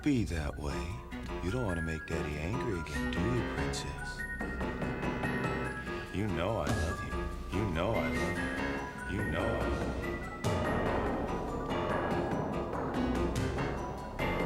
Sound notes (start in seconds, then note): 9.8 echoing